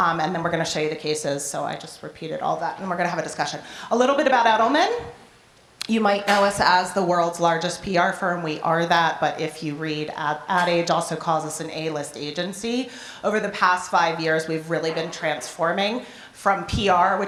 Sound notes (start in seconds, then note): none